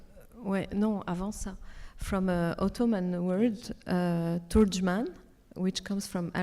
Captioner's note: speaks French